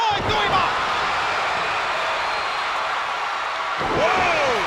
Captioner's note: spectators cheering